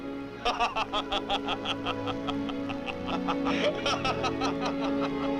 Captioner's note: Androcles and Hercules laugh; dramatic orchestral music